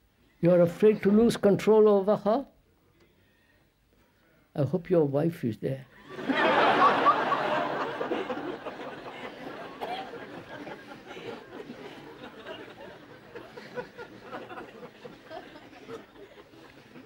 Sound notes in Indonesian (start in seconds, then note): 8.5 Tertawa